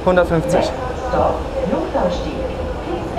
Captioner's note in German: Lautsprecherdurchsage